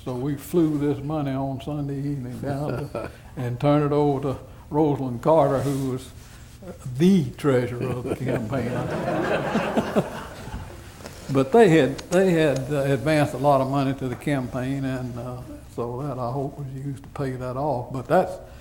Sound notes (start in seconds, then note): 11.6 laughter